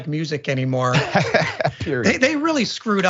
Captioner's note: laugh